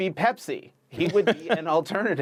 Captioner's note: laughter